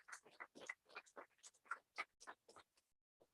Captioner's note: applause